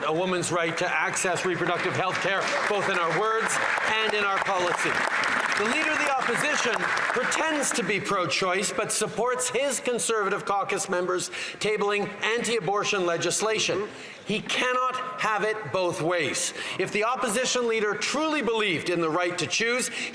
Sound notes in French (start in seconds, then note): 4.1 voix de l'interprète